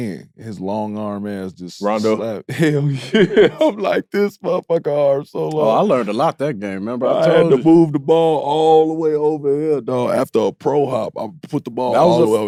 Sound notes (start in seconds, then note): 1.8 laughs